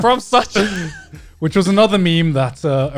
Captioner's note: guys laughing